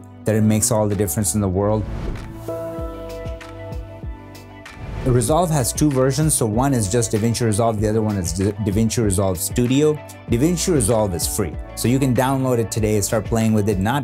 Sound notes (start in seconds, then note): 1.8 whoosh sound; 1.8 gentle beats; 2.6 whoosh sound